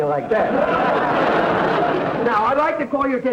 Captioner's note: audience laughter